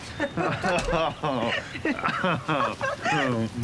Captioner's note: both laugh